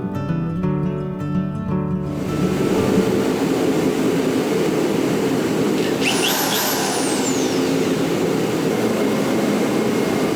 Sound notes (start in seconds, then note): 5.6 drill whirs